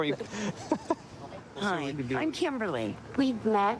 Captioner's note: laughing